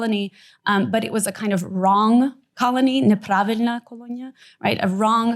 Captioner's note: non-english